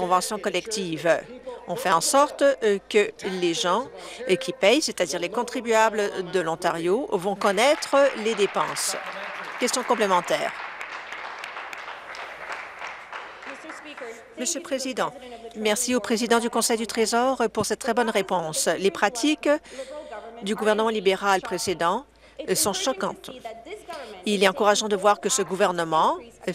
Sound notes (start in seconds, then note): 10.5 applause